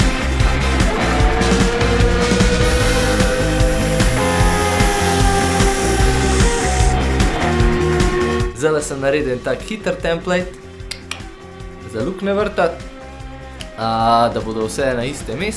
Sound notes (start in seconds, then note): 10.9 click